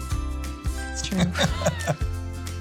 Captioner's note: laughing